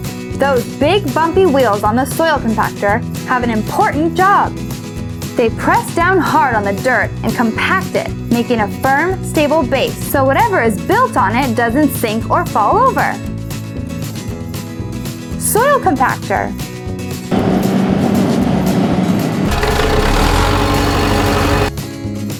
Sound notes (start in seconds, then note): 17.3 soil Compactor Engine Sound; 19.6 backhoe Engine Sound